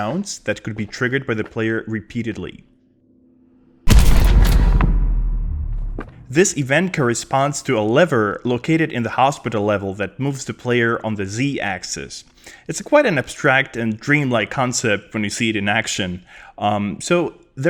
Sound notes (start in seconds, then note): 3.8 thud